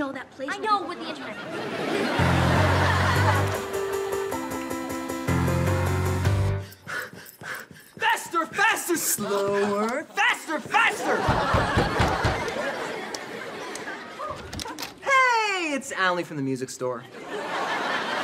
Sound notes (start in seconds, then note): 6.6 panting; 11.2 pounds on door